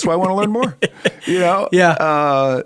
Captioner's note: chuckle